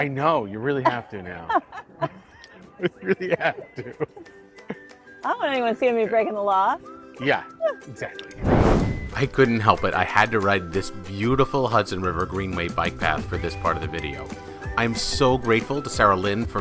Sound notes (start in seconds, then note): 2.8 chuckles; 2.9 laughing; 6.7 chuckles